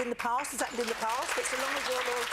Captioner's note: audience applause